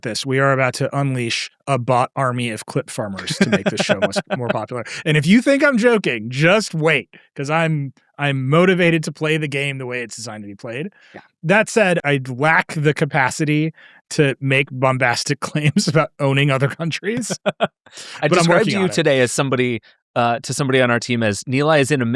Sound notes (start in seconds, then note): 17.0 laugh